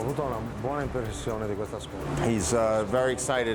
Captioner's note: speaking foreign language